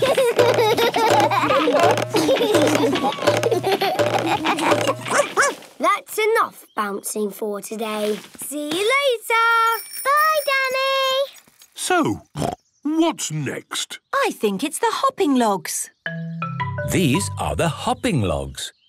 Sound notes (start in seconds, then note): 0.0 all laugh; 5.1 barks; 12.3 snorts